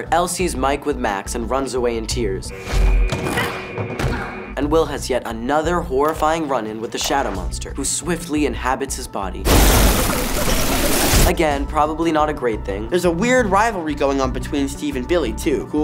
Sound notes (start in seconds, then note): 2.3 thud; 9.3 whooshing wind